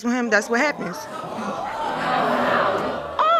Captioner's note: audience exclaiming